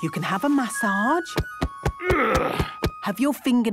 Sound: thumping; moaning

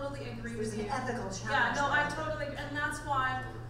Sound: voiceover

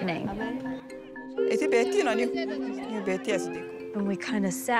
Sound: speaking foreign language

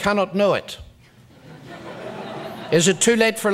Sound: audience laughs

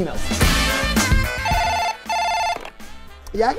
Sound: phone ringing

